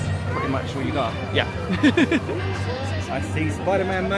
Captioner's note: laughing